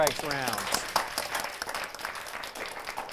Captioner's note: applause